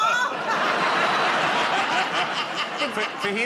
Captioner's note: laughter